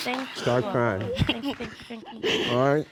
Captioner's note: sobs